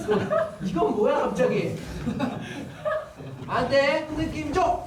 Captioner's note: hahahaha